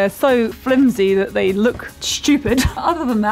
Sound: laughs

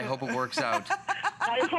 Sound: laughter

